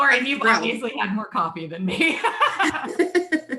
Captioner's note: both laugh